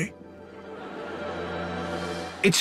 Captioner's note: audience laughing